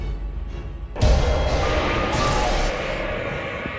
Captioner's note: dragons cry